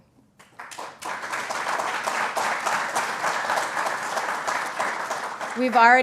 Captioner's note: applause